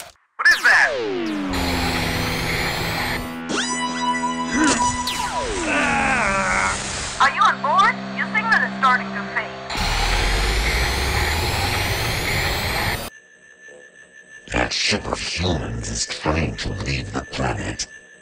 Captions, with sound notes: What is that? ARGGH! Are you on board? Your signal is starting to fade. (ship engine) That ship of humans is trying to leave the planet.